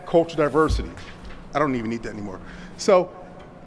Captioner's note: paper falls from podium